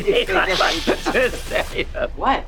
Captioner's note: speaking another language; laughing